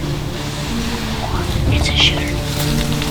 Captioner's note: whispering